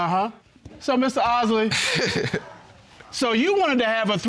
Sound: laughs

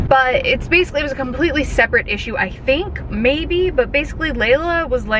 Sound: none

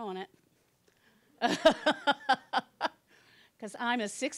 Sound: laughing

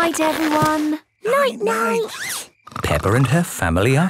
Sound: snores

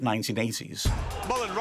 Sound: chatter

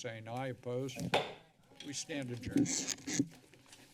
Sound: hits gavel; mic noise

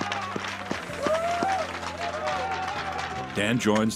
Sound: sticks clacking on ice, players cheering

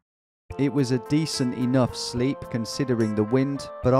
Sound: voiceover

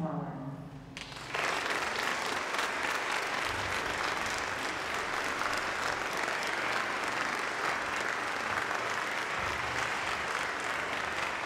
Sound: applause

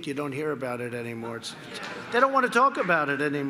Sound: laughter

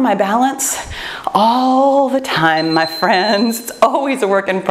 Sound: timer beeps

